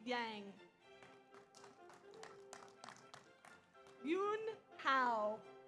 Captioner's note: audience applauds